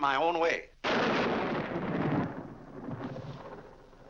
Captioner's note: loud thunder